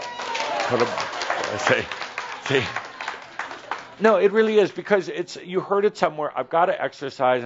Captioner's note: audience applause